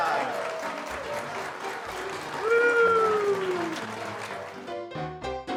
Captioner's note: lively music continues; hoots